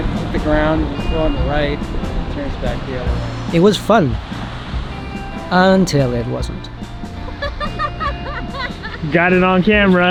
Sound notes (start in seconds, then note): 7.3 laughing